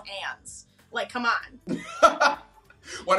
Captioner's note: laughing